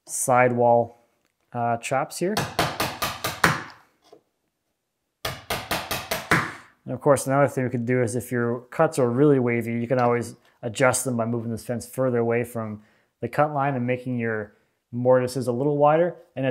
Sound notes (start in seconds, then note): 2.4 hammer banging